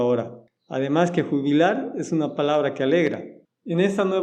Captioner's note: in spanish